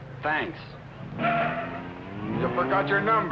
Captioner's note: tires screeching